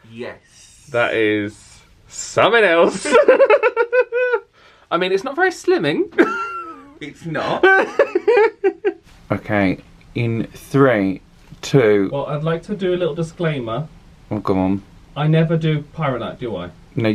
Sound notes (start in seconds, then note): 2.9 both laughing; 7.2 laughing